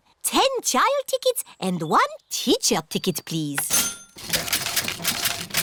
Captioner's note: cash register dings